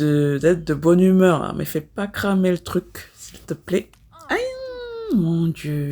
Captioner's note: laughs